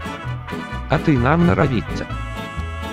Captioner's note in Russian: говорит с испанским акцентом